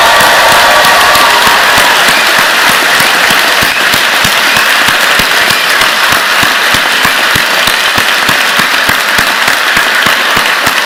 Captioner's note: cheers and applause